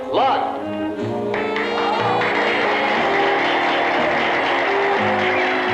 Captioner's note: applause